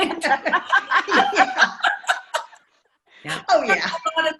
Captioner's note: laughs